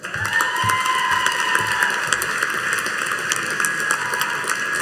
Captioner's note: audience cheering and applauding